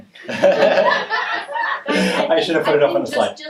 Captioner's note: laughing